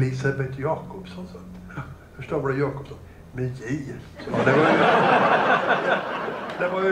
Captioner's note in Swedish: Skratt